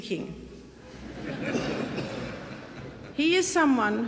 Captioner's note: audience laughing